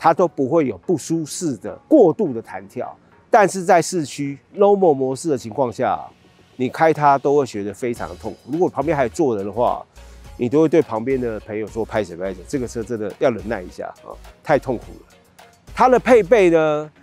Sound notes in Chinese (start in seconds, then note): 12.2 台語